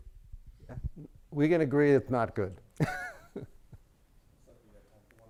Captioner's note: chuckles